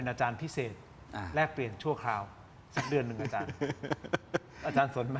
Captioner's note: laughs